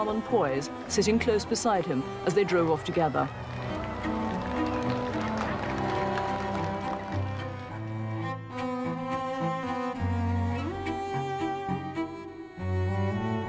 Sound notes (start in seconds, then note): 2.3 crowd clapping; 5.3 elegant violin music